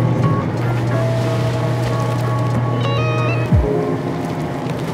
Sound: bagels plopping; gentle music continues; mixture continues bubbling

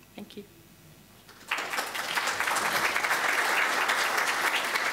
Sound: applause

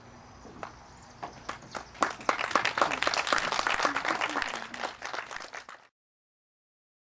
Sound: applause

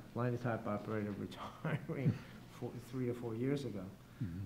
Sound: chuckling

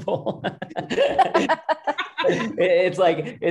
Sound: laughs

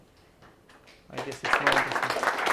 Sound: students claps

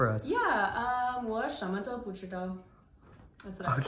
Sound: speaking in Mandarin

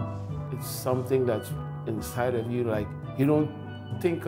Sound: steel drum music; voiceover

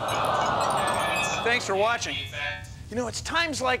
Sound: AUDIENCE AWs

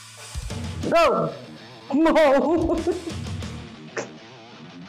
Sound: laughter

